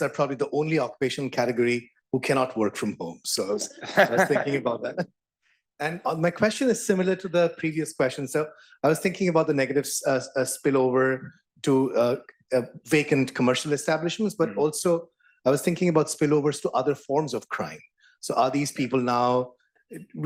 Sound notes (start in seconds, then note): 3.6 laugh